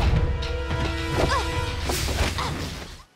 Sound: grunting

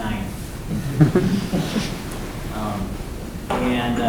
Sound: laughing

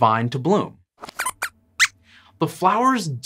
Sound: squeaks squeaks

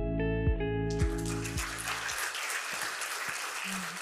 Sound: applause

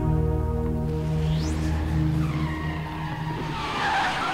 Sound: DeLorean approaching

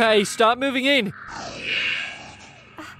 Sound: growls

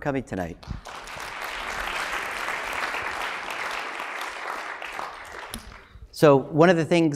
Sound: applause

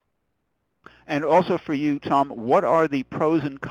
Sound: voiceover

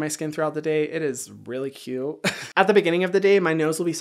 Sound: chuckles

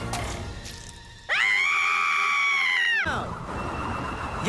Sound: Tabii screaming

